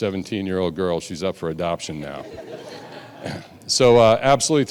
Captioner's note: audience laughing